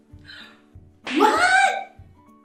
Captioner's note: gasps